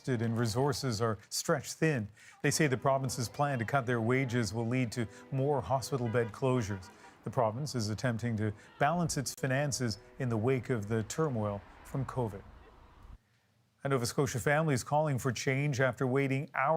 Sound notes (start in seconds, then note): 0.7 chanting